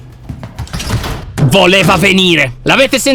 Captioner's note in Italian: rumore di passi